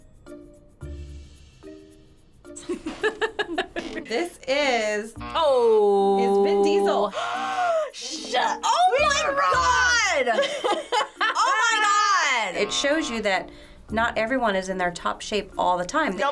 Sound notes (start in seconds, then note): 2.6 giggling; 7.1 gasping; 10.2 laughing